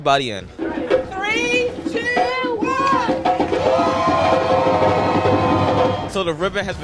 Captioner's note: cheering